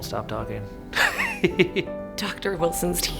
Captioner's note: laughing